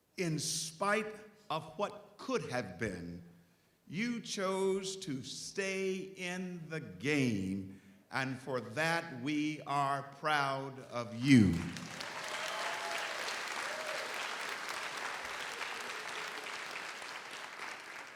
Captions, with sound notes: In spite of what could have been, you chose to stay in the game, and for that we are proud of you. (audience applauds) (audience cheers)